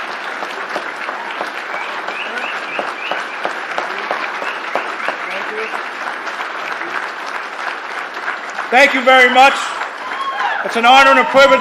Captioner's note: applause